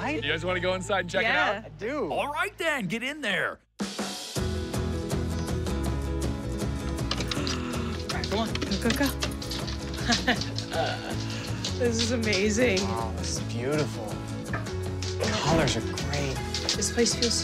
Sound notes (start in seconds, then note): 3.2 upbeat music; 9.8 laughs